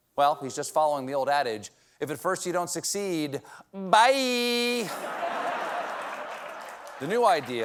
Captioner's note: laughter